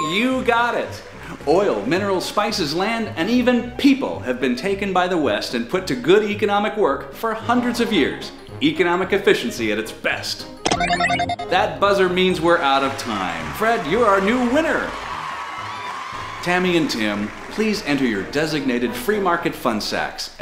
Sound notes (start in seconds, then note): 10.7 buzzer